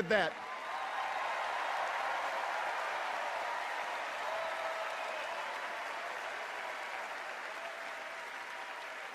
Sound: cheers and applause

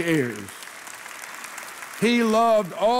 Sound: congregation applauding

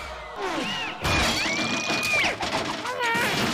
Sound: screams in somersault

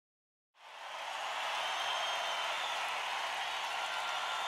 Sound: crowd cheering

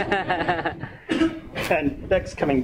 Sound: laughing

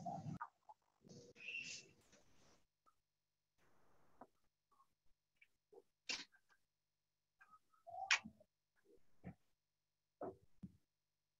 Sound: pause

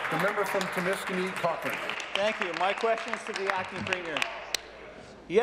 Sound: applause

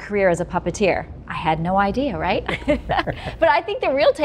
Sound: laughs

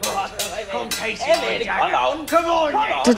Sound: swords clashing

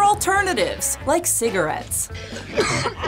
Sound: coughs

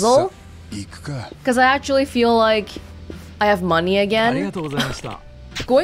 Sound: scoffs

